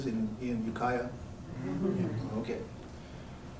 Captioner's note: crowd agrees